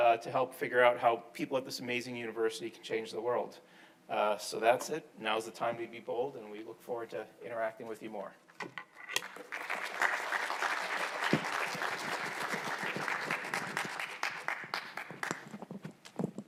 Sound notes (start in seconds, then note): 9.2 attendees applauding